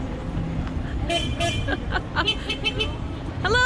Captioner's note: horn honking; laughter